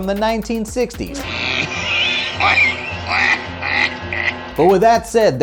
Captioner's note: penguin laughing